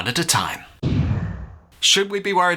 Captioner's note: woosh